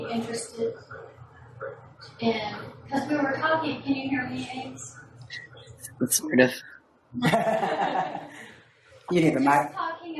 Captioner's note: laughter